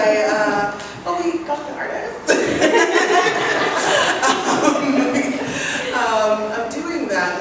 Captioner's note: laughs